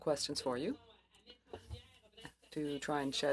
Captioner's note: speaking French